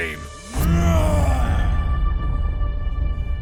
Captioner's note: Brocheet roars; tense music continues